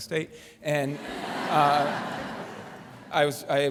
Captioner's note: laughter